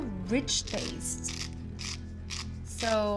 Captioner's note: grinding